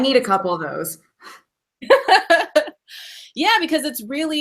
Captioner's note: laughing